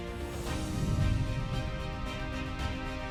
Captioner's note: gentle music continues; transition whooshing; gentle music continues